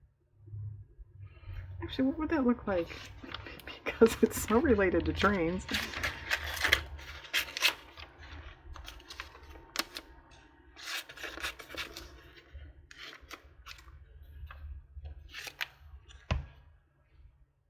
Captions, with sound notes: actually what would that look like because (laughs) it's so related to trains